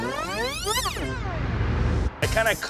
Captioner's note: tape rewinding